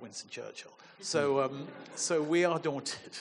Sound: audience chuckling

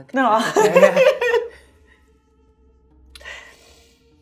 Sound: chuckles

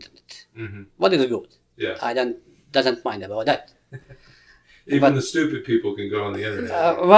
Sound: laughs

